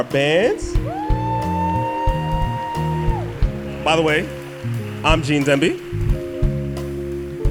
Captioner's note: soundbite of cheering